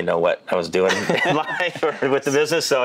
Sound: laughing

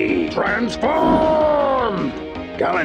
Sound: air whooshes

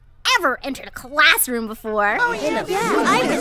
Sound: agreeing chatter

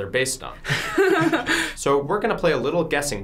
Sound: both laugh

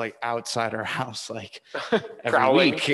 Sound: both laughing

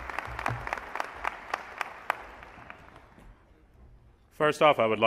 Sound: applause

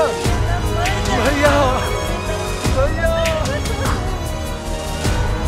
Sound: sobbing

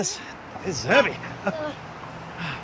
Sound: laughs

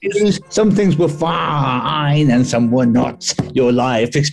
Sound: gruffly

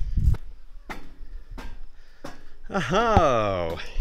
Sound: tumbles crunching; footsteps on metal stairs

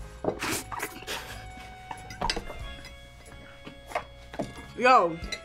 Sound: both laugh

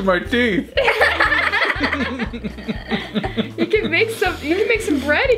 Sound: laughing

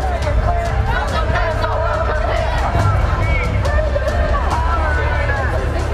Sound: people chanting

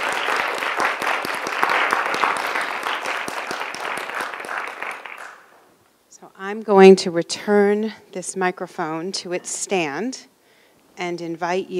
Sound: applause

